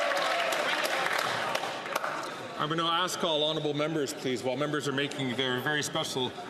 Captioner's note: some Applause